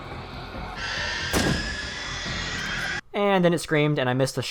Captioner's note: screaming